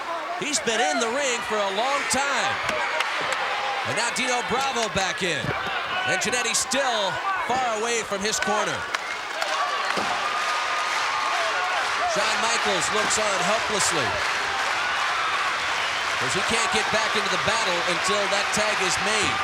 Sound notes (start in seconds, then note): 10.7 applause